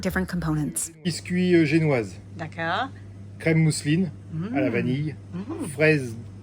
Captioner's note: speaking in French